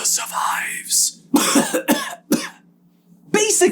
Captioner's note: coughing and hacking